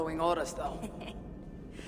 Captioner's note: laughs